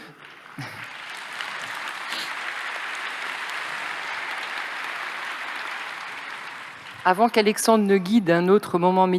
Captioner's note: applause